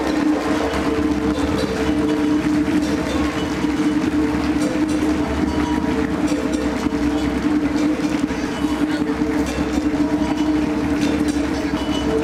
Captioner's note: drumming and Applause